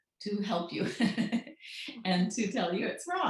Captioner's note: laughs